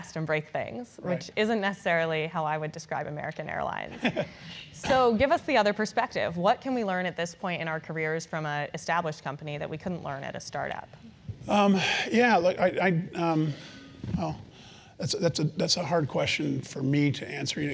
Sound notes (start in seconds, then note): 3.9 laugh